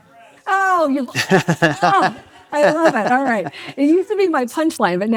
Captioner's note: laughs